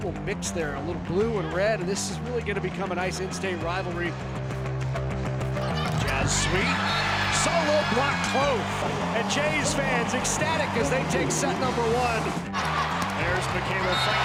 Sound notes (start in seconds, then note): 4.9 exciting music; 8.4 crowd cheering wildly